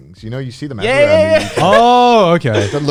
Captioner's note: laughs